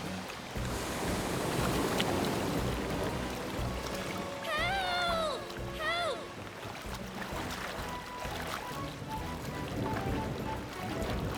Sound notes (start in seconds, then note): 0.4 rain Gushing